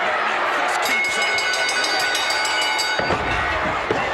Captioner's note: bell ringing